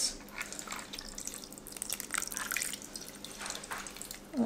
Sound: water pouring

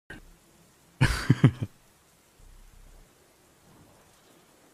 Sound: cute chuckles

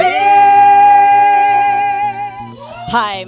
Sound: crowd applauding

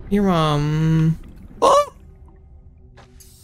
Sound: scream

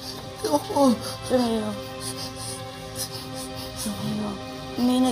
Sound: panting

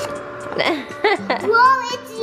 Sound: laughs

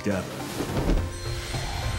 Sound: cape whooshing; wind blowing

